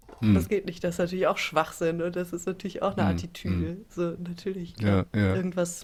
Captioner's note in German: räuspern